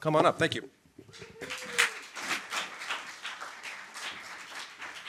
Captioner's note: applause